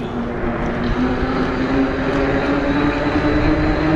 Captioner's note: wheels whirring